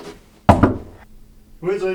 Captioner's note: knock